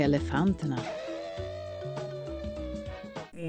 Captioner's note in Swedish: Tut - ljud